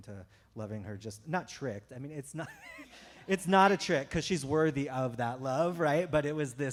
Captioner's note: chuckle